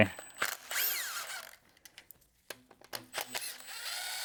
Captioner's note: drill whirring